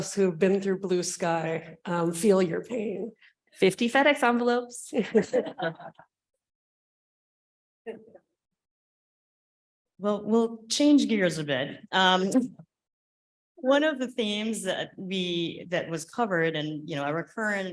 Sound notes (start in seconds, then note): 5.0 laughing